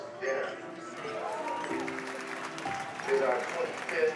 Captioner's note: cheers and applause